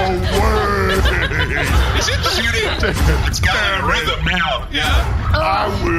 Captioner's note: laughing